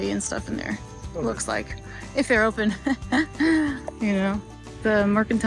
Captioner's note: chuckling